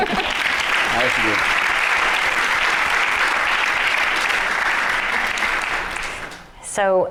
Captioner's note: applause